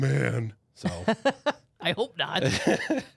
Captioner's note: laughs